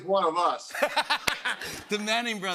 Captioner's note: laughter